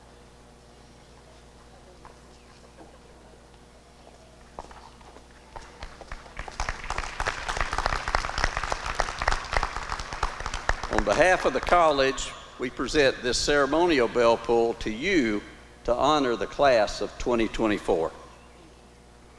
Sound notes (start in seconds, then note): 5.7 applause